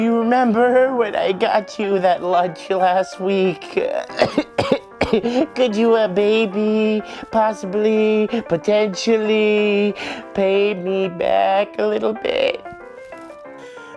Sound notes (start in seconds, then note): 3.9 coughs